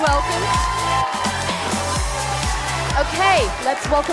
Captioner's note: participants continue cheering